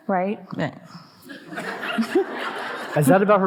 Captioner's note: audience laughing